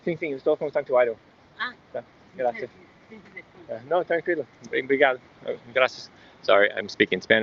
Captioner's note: conversation